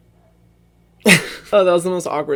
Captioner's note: laughs